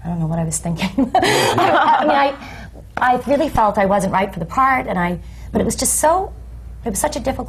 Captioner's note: laughs